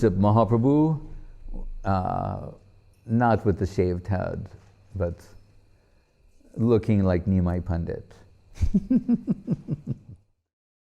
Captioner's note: laughing